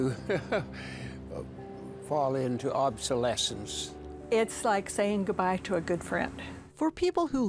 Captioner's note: laughing